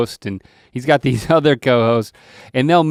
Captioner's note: chuckles